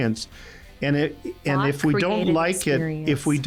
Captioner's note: mumbles